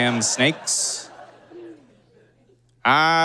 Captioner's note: audience laughs